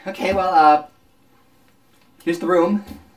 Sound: silence

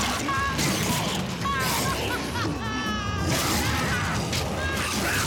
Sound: crying, Screaming

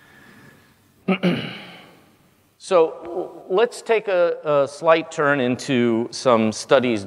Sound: cough

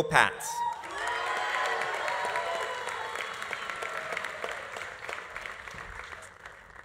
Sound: audience cheering; audience applauding

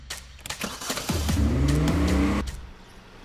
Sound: engine revs

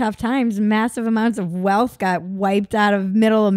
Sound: none

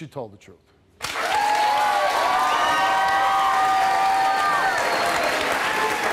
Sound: audience cheering and applauding

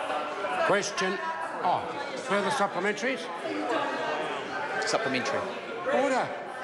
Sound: members talk loudly

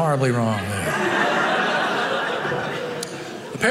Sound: audience laughing

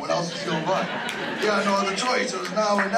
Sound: laugh

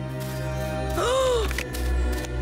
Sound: gasping

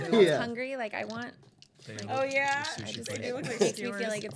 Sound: chattering

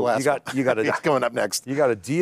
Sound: chuckles

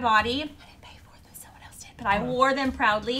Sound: whispering

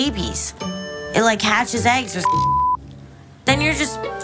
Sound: beep

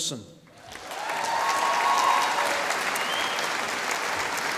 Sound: audience applauding

